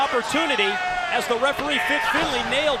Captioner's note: crowd chatter